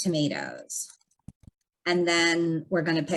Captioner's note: keyboard clanking